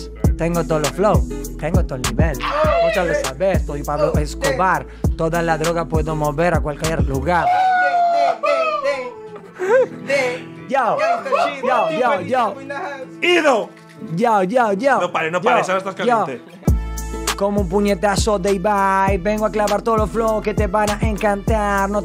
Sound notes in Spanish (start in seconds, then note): 2.4 gritan; 7.4 gritan